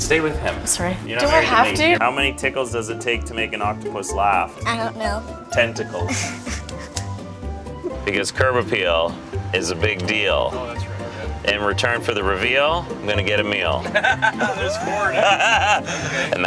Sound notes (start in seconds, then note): 6.0 laughs; 13.8 laughter